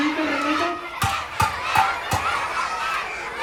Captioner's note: metal pan hitting